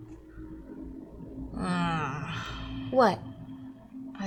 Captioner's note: groans